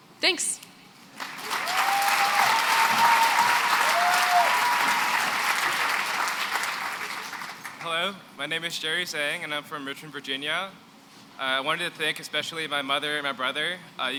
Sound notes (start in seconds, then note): 1.2 cheering and applause